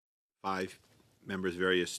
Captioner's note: speaking French